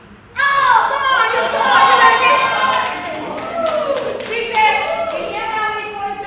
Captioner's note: applause